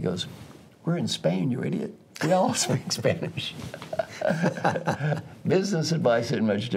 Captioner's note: laugh